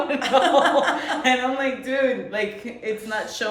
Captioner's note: laughing